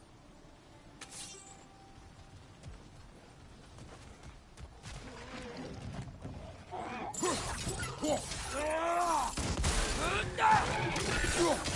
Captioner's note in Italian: urlo